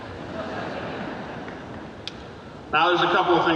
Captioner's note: audience laughing